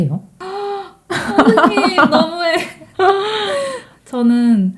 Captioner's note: laughs